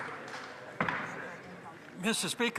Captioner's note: some Applause